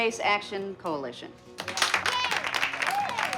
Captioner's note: clapping and cheering